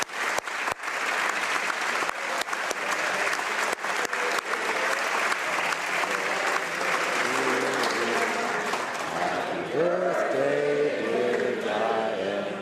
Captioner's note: applause